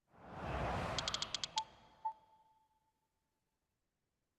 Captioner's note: air swooshes